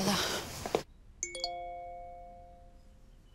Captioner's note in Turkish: Telefon mesaj sesi